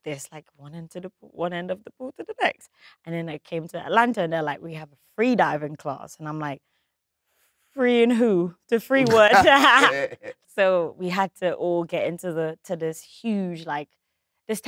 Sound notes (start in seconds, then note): 9.0 John laughs; 9.0 laughs